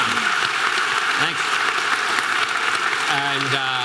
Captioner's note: audience applause